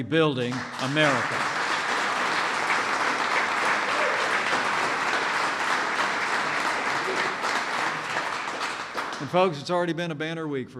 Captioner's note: applause